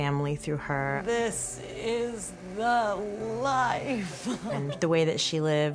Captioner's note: chuckles